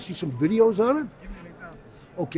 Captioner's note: voiceover